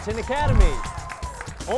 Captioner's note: cheering